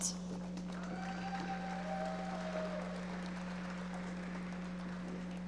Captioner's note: audience members applauding